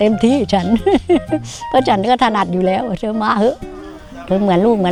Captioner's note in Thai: เสียงหัวเราะ